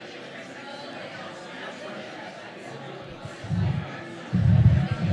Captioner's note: audience chattering indistinctly